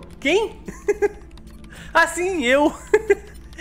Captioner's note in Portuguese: risos; risos